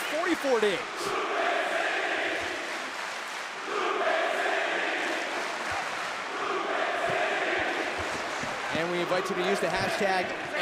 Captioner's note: crowd cheering